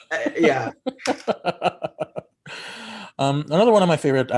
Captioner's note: laughter